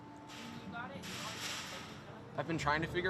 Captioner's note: gate banging drowns out speaker